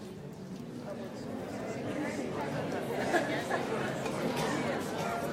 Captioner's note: audience chattering